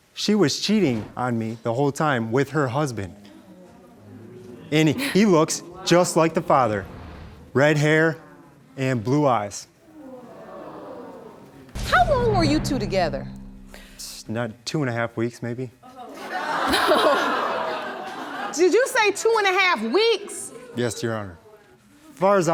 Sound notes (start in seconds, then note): 3.1 audience murmuring; 9.9 audience jeering; 15.9 audience laughing